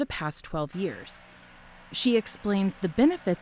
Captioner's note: engine humming